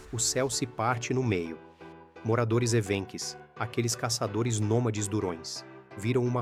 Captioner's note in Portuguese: Som de rachadura cósmica